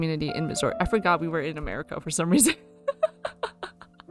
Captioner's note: laughs